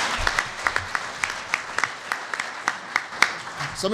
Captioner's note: applause